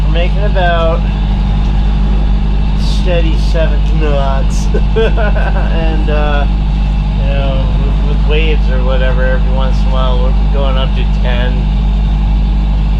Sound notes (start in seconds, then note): 5.4 laughing